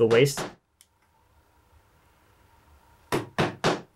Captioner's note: hammer bangs